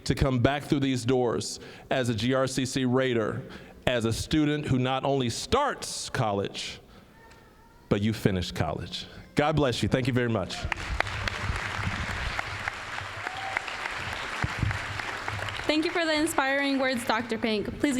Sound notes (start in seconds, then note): 10.6 applause